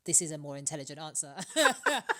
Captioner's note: laughter